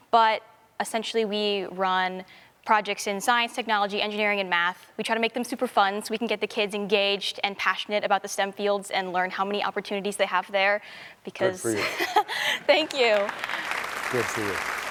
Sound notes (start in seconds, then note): 11.6 laughs; 12.8 applause